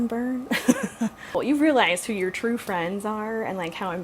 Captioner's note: laughs